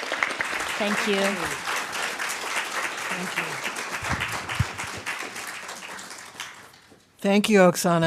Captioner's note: applause